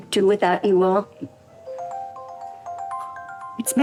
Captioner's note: ringing